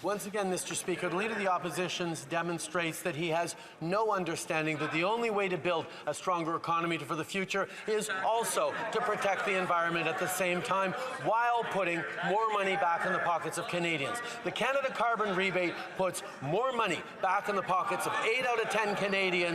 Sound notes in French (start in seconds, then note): 5.2 voix de l'interprète